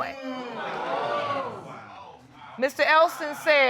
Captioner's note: audience exclaiming